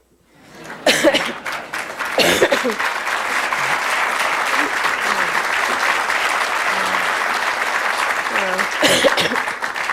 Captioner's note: applause